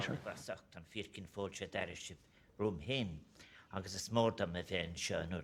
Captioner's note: man speaking Gaelic